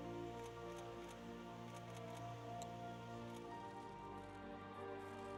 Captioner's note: camera clicking